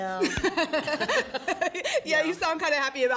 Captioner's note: laugh